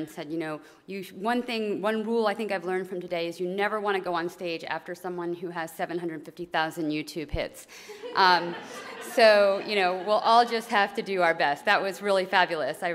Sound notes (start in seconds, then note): 8.0 laugh